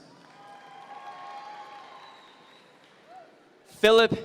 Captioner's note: audience members cheer